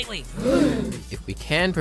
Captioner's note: gasp